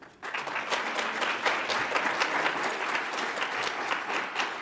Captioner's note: audience applauds